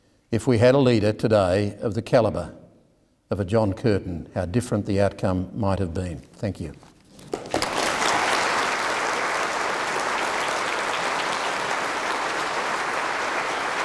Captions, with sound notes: if we had a leader today of the caliber of a John Curtin, how different the outcome might have been? Thank you. (audience applause)